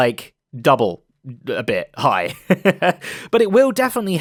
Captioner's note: laughs